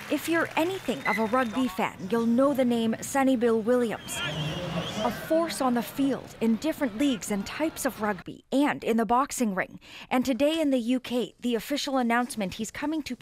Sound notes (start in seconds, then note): 2.5 applause